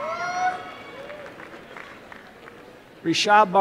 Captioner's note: applause and cheering